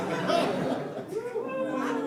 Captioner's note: audience laughs